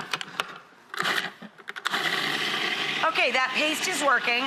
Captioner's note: whirring blender